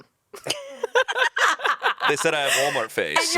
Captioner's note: everyone laughs